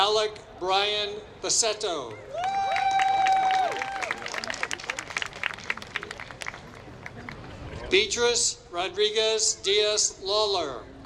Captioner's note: applause